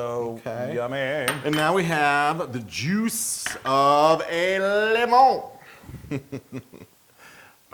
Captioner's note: laugh